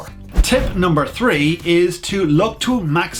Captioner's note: whoosh